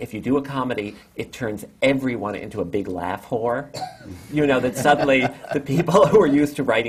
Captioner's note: laughter